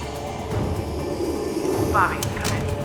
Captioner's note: monster wheezing